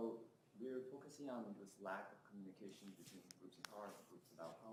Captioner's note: faintly speaking